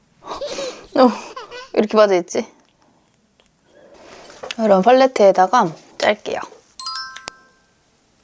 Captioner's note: gasp